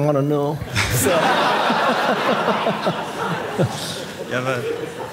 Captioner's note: audience laughing